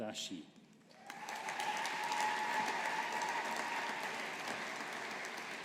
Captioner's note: audience applauding